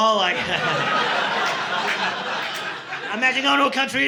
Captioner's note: audience laughing